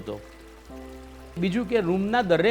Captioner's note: water pouring